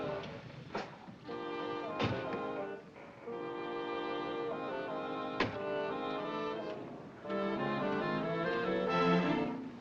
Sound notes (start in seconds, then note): 1.6 car door closes; 4.7 car door closes